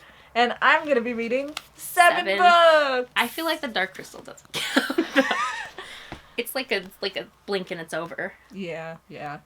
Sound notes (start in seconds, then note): 4.6 laughs